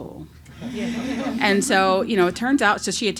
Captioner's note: laughs